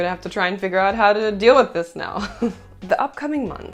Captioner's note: laughter